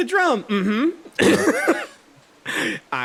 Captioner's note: laughs